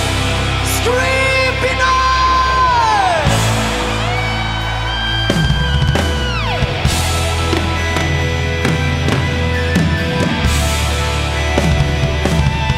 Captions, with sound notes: Scream, Pinoy. (audience cheers) (rock music continues)